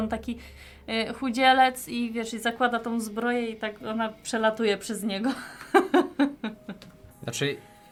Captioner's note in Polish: śmiech